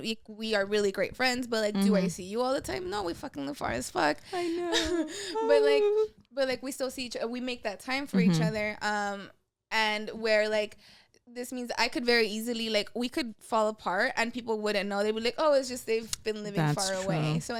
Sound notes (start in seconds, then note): 5.3 sad girl noises